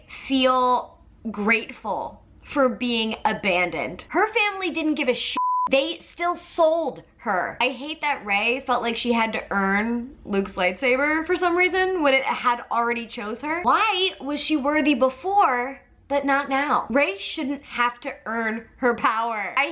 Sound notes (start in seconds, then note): 5.3 beep